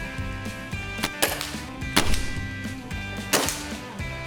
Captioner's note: upbeat music; shots fired